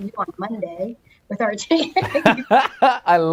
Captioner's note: laughs